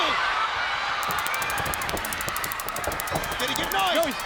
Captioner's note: stun gun zapping